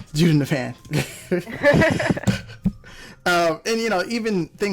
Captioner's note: laughs